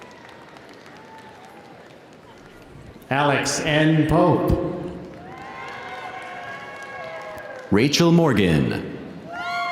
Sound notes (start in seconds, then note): 4.5 audience cheering; 5.0 audience applauding